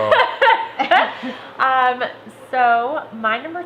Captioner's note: laughter